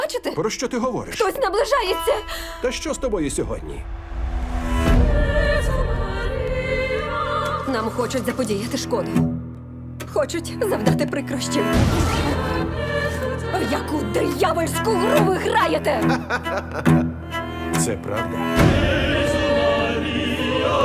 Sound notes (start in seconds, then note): 11.7 choir continues singing; 15.6 echoing laughter